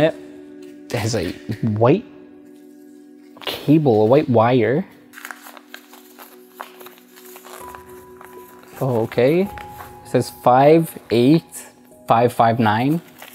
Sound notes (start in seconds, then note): 4.8 paper rustles